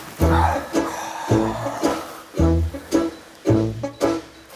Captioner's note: circus music; sighs; circus music